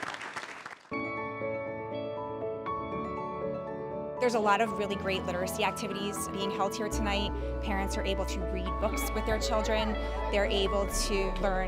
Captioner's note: applause